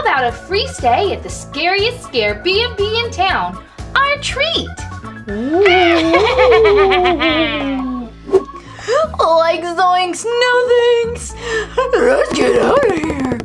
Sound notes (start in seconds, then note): 5.3 ghost booing and laughing